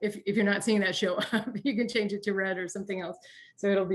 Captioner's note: chuckles